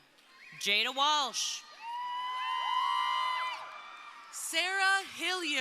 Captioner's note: crowd cheering